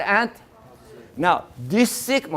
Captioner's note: class in unison